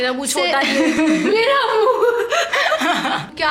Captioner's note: laughing